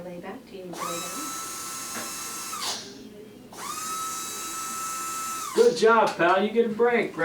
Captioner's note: brush whirring